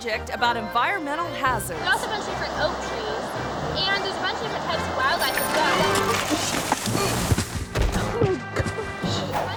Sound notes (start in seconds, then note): 5.1 bike bell rings; 5.1 bike crashing